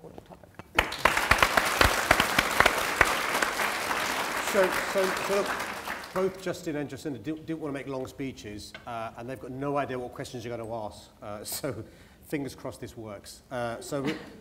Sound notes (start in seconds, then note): 0.7 applause